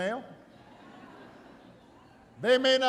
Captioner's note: laughter